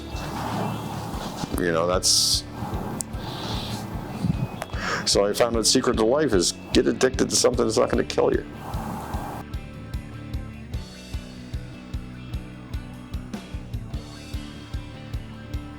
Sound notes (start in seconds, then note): 2.5 lips smacking; 9.4 rock music continuing